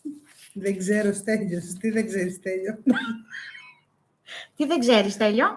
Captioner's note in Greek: γέλια